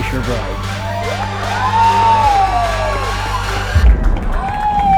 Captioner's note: people cheering